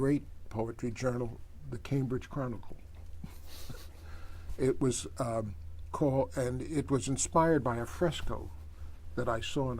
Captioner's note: laughs